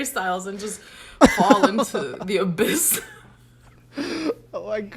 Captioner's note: both laugh